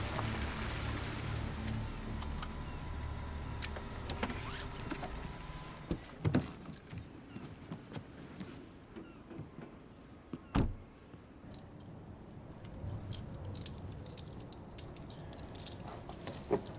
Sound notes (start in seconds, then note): 4.1 engine shuts off